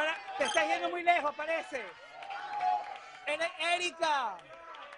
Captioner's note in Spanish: aplausos